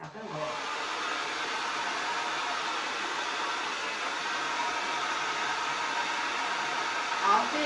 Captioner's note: hair Dryer Blows - Vigorous Motor Sounds